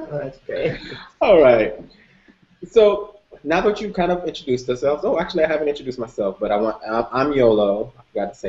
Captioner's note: laughter